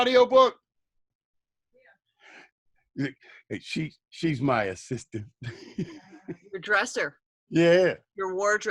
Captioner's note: laughter